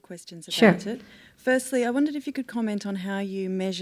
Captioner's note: voiceover